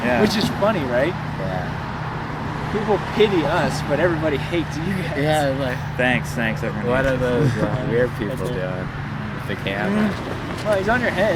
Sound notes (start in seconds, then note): 4.3 laughing